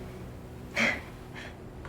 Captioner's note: June laughs sadly